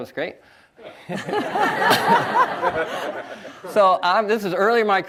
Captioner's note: audience laughs